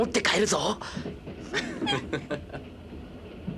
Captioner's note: laughter